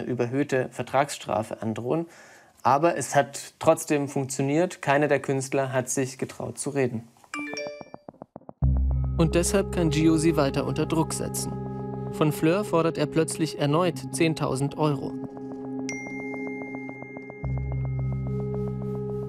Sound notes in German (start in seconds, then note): 7.3 Benachrichtigungston; 17.8 Angespannte Musik